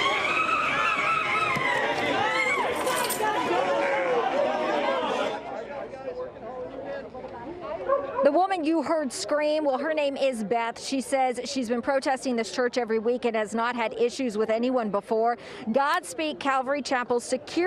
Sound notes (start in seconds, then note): 1.9 screaming